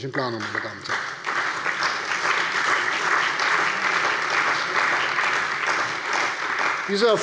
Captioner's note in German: Beifall bei der CDU und dem BÜNDNIS 90/DIE GRÜNEN